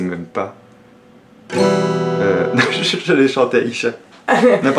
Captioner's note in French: guitare; rire